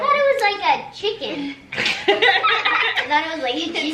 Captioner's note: everyone laughs